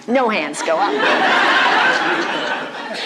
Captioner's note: boistrus laughter